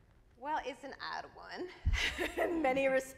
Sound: laughs

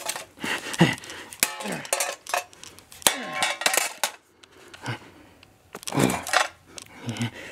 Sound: pieces clanking; hammer smashing

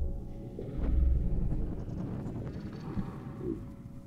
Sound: voices, ambient sound distorting

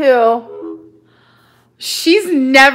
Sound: beeping

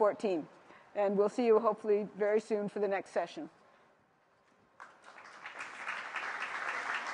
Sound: applause

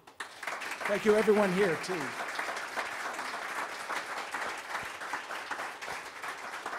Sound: audience applauds

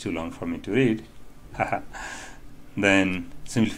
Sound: laughter

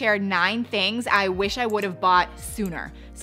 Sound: mouse clicking

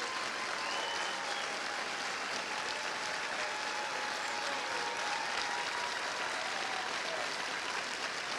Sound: cheers and applause

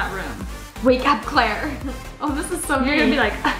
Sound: laughs

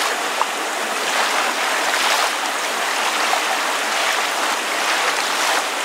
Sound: scene fades out as rain and water sounds continue

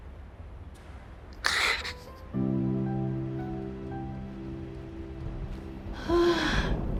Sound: crying

